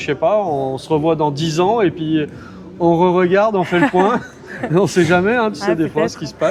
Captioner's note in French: rires